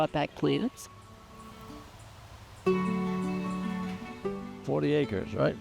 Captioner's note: soft breeze